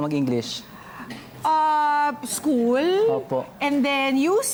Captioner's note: politely